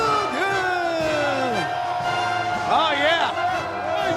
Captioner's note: crowd cheering